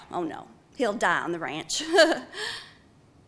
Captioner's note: chuckling